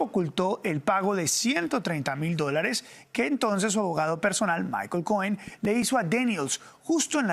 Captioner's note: HABLAN EN INGLéS